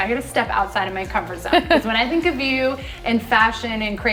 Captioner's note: laughs